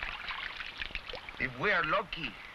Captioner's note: water splashing